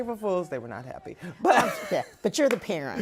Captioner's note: laughs